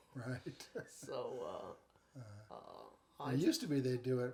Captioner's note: chuckles